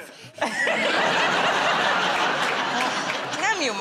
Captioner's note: laughter